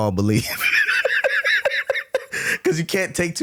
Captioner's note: laughing